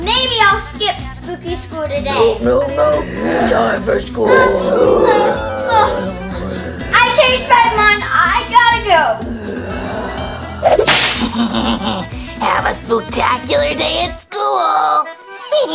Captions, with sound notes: Maybe I'll skip spooky school today. - No, no, no! Time for school. (whimpering) (creepy growling) - I change my mind, I gotta go! (creepy laughing) - Have a spook-tacular day at school!